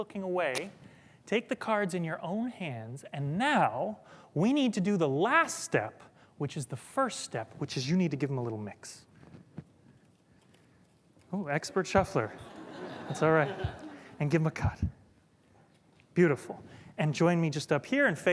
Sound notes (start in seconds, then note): 14.3 laughter